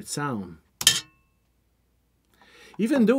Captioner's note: metal clank sounds